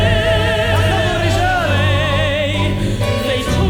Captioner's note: performer speaking Arabic